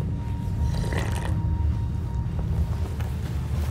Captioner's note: slurping